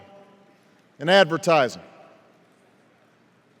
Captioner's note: none